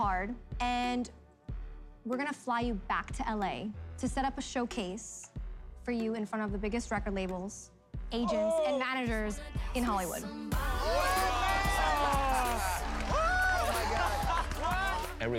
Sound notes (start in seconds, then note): 10.6 all cheering